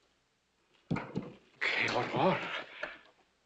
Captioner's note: in spanish